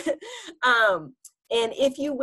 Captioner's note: chuckles